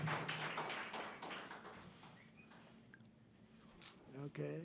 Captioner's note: applause